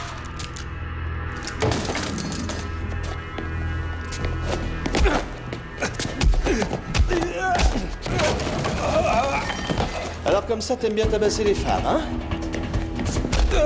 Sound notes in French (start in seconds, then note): 0.1 Clics du pistolet; 7.0 Gémiments